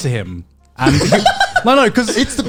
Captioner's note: laughs